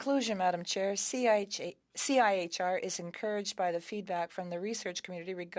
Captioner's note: speaking French